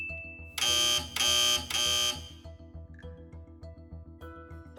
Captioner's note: alarm buzzing